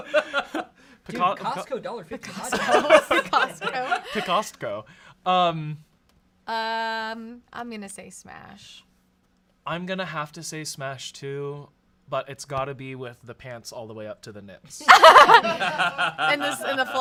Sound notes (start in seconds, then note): 0.0 laughs; 2.4 everyone laughs; 14.9 everyone laughs